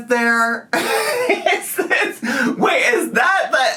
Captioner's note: laughs